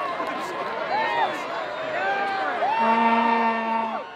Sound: cheering...horns honking

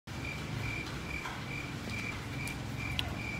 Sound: crickets

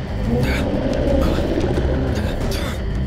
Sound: JAKE grunts

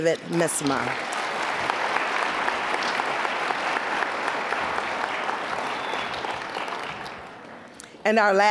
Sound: applause

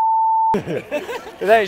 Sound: laughs

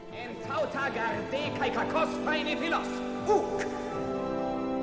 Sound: man shouting in Greek

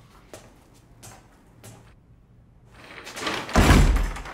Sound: bang

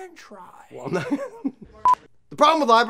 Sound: laughs

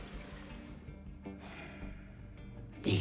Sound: sighs

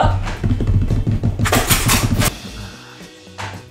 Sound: tapping

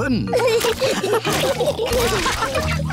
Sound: all laughing

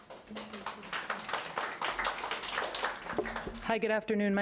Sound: audience applauding

